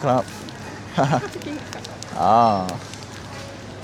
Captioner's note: laughs